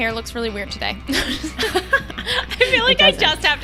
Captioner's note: both laughing